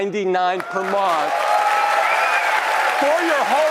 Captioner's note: applause